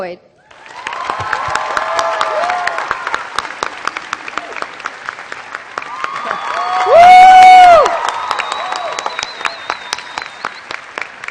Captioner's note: cheering and Applause